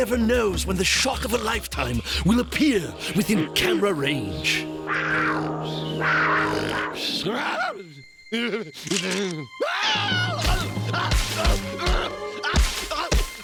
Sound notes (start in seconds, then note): 4.8 growling; 11.4 groaning